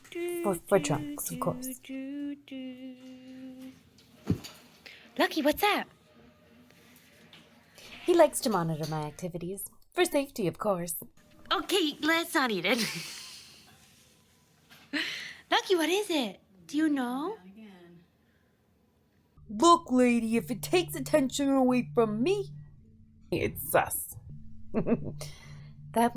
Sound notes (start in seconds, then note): 13.9 laughs